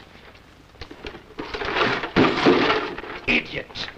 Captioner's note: clattering